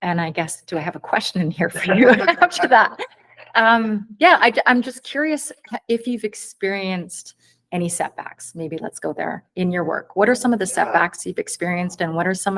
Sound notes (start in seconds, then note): 1.7 haha